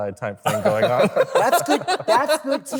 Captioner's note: laughter